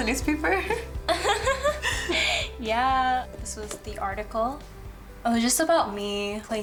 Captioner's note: laughs